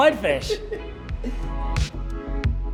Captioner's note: laughing; upbeat music